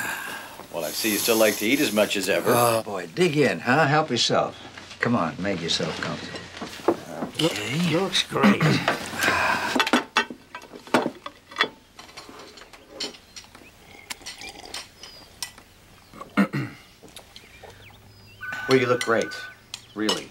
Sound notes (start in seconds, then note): 0.0 laughing, Sniffing; 13.9 slurping; 16.2 clears Throat; 18.4 phone Ringing